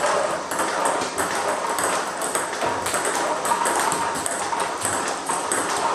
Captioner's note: ball ping pong hitting continues